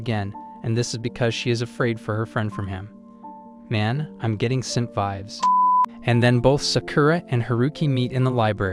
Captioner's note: beep